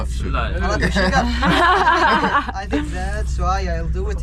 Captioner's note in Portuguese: risos